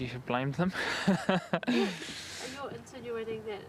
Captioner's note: laughing